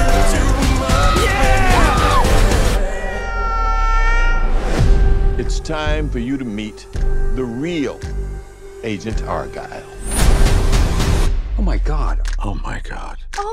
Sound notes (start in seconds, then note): 4.7 music surges; 5.3 Elly screams; 5.3 cat Meows